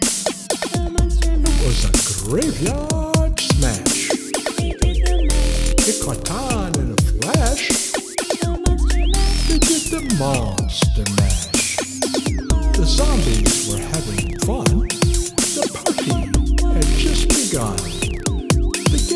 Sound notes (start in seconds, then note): 12.2 whaa - oooo